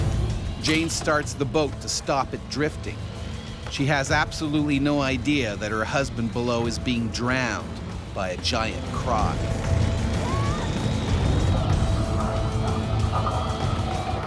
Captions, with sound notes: - [Voiceover] Jane starts the boat to stop it drifting. She has absolutely no idea that her husband below is being drowned by a giant croc.